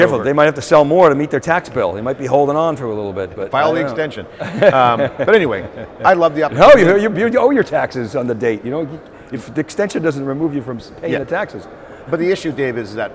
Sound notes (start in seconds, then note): 4.3 laughs